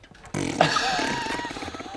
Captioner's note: fart noises